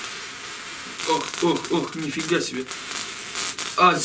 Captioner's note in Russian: треск